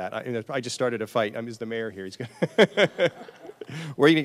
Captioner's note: laughter